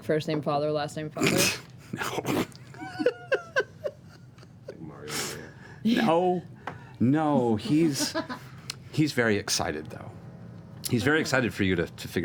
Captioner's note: giggling